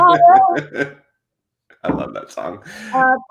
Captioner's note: laughs